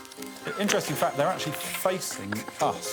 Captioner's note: whistle blows